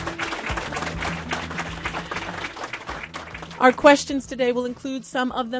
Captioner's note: applause